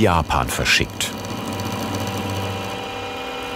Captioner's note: machine whirring